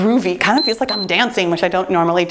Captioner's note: timer beeps